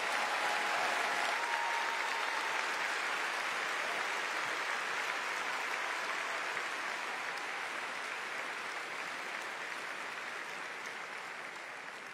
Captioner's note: applause